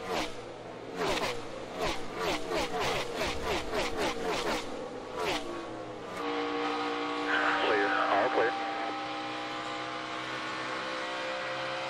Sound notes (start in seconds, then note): none